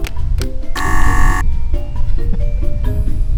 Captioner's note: buzzer